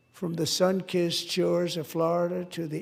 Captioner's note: none